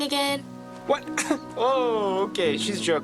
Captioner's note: scoffs